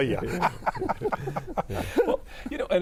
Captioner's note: group laughing